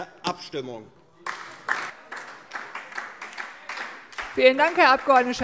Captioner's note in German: Beifall DIE LINKE